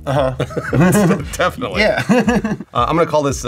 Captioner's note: laughs